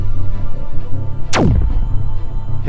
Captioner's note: zap